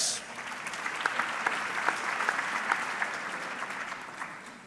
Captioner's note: audience clapping